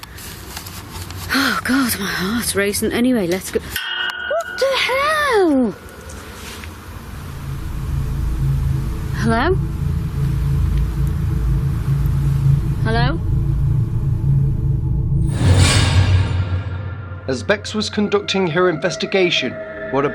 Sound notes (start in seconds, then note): 3.8 railing ringing; 8.1 ominous music